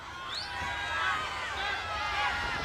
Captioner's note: crowd cheering